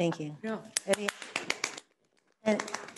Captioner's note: members applauding